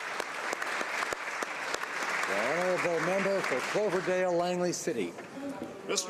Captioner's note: applause